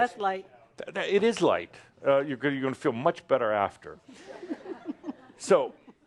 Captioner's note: giggles